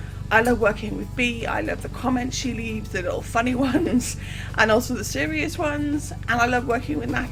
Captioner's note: laughs